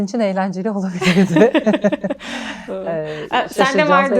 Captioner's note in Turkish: kahkaha